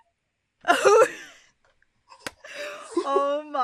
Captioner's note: both chuckles